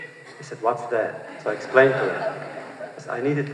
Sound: laughter

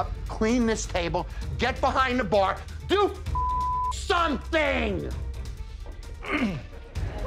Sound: beep

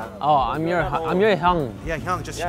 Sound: speaking Korean

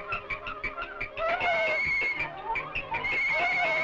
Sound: whistle blowing

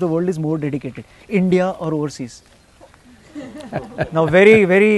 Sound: laughter

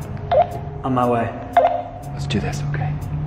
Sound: beep

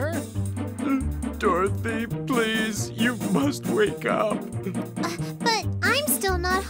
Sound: sob

